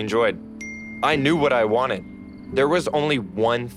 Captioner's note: cellphone notification